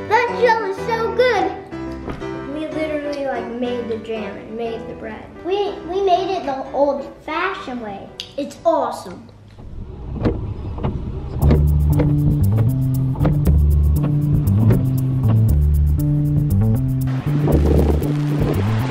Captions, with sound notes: - That jelly's so good. - We literally like made the jam and made the bread. - We made it the old fashioned way. It's awesome. (windshield wipers whirring) (upbeat music)